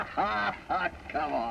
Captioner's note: laughter